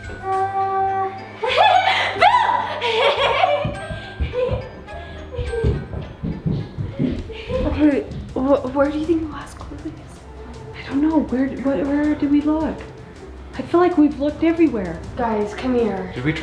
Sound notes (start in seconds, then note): 1.4 laughing